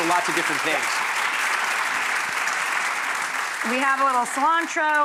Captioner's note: audience applauds